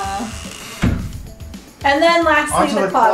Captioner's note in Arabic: مفصلات صرير